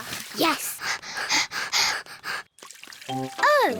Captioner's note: both panting